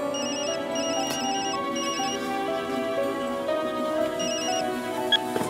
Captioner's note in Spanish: Suena celular